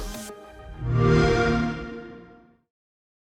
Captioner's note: soft swelling noise